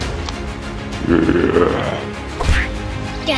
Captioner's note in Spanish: rugido de broma